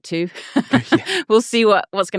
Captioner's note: laughing